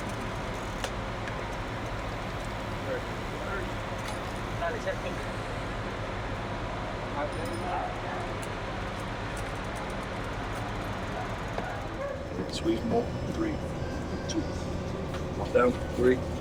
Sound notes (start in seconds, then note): 4.2 indistinct chatter